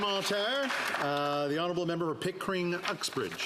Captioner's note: applause